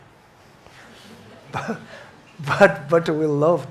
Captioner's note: audience chuckles